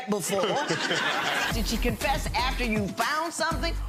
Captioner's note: audience laughs